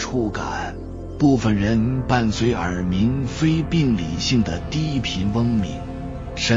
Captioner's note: non-pathological low-frequency buzzing